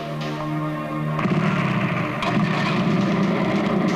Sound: motorcycle engine starts

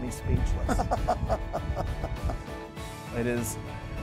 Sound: laughing

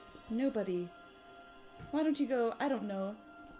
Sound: none

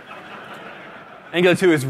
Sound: laughter

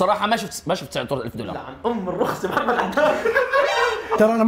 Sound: laughs

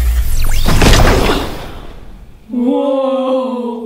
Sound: explosion

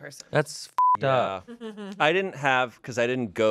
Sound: beep

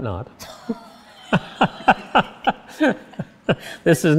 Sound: laughing

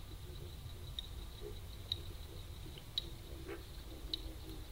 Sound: loud bullfrogs croaking

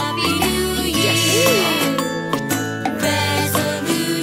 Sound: baby laughing

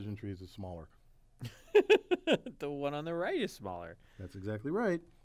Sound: laugh

